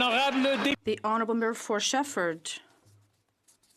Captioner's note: some Applause